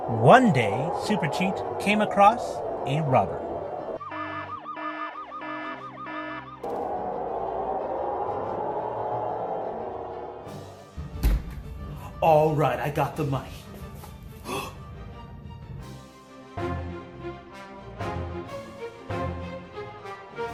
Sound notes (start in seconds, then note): 3.1 alarms; 14.4 gasps